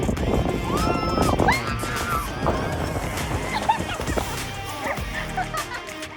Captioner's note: mom burst out laughing